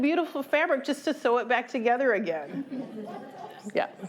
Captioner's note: laughter